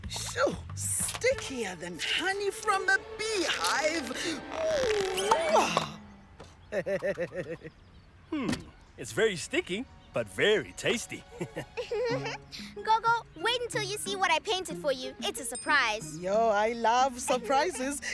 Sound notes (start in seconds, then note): 6.6 chuckles; 11.3 giggles